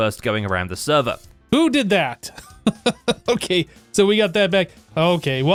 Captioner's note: laughs